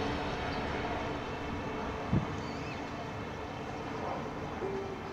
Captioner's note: distant plane engine roaring